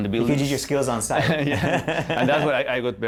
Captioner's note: laughter